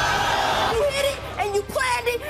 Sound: crowd jeers

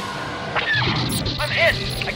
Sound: lasers firing; squeaking

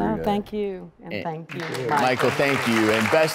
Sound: clapping

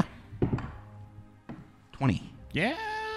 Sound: die rolls

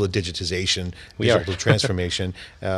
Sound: laughter

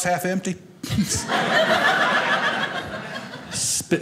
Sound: audience laughing

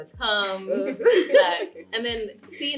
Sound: laughter

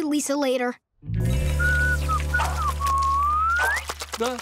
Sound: whistling

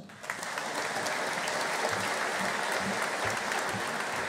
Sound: audience applauding

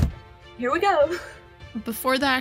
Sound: laughter

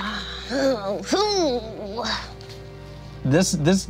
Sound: groans

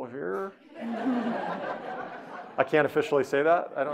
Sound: audience laughing

